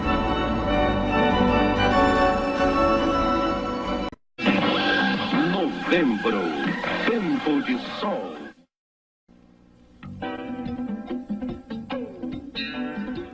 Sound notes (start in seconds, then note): 4.9 male announcer speaking Portuguese; 10.1 retro music plays